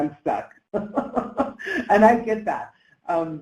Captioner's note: laughs